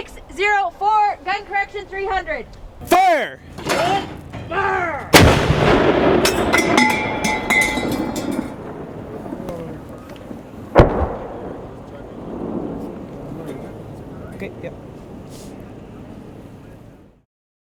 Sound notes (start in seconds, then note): 4.8 sound of gun firing, shell casing hitting the ground; 10.8 sound of explosive projectile hitting the mountain